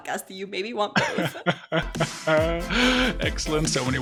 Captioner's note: laughs; upbeat music